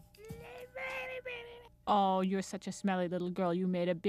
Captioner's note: cooing